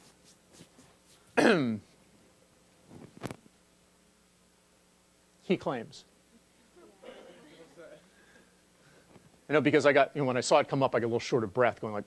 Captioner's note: laugh